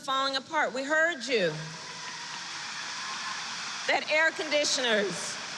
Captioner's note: applause